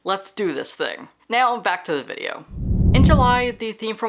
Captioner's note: whoosh